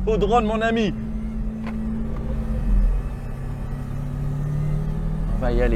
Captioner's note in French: Bruit d’hélices